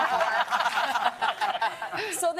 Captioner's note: laughter and applause